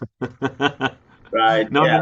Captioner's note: laughter